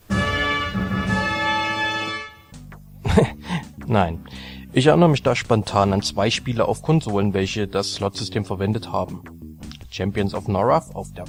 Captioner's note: giggles